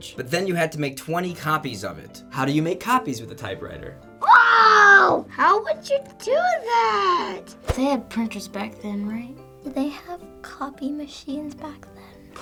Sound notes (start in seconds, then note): 4.2 screams